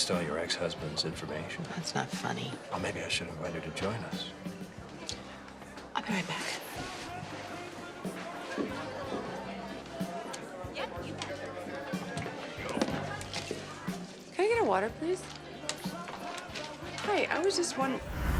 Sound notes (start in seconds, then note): 9.1 bar patrons chattering; 17.9 dramatic music